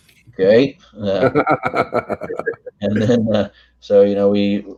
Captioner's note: all laugh